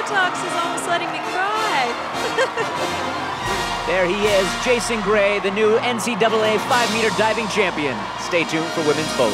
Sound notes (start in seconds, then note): 2.2 laughter